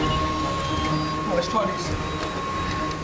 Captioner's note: beeping